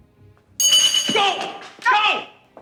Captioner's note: launcher clangs